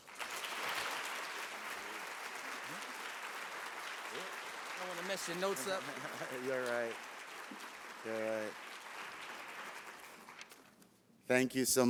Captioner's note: applause